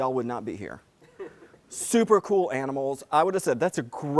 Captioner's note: laugh